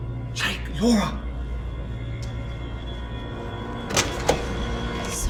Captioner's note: door knocking